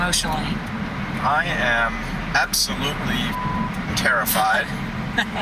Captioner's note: beep